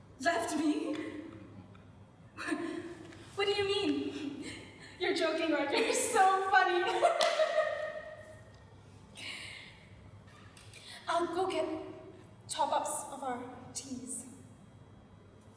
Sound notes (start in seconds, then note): 6.8 laughs